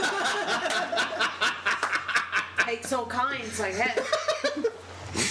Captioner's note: laughter